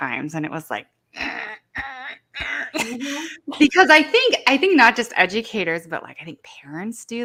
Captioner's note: grunting